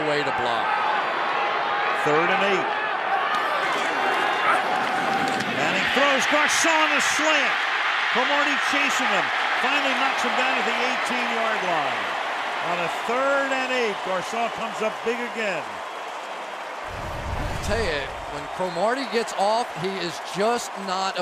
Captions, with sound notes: Manning throws Garcon a slant. Cromartie chasing him, finally knocks him down at the 18-yard line on a third and 8. Garcon comes up big again. [cheering] I'll tell you, when Cromartie gets off, he is just not effective. He just runs out here. I don't think he had the typical bump and run kind of coverage